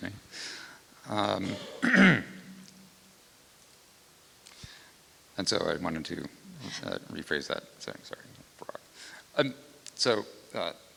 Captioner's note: clears throat